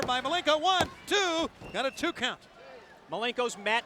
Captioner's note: hand pounding